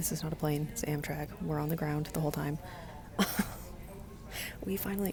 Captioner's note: laughing